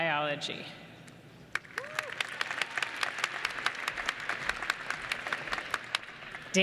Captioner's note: applause